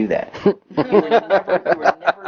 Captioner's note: laughs